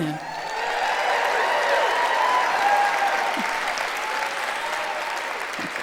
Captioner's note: cheers